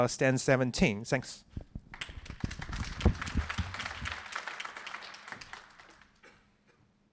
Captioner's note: applause